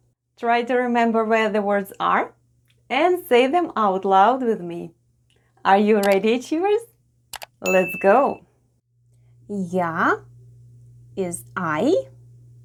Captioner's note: click & ding sounds